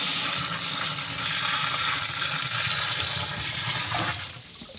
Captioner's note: water pouring